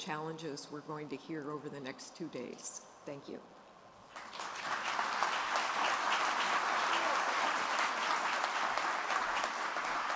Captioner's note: applause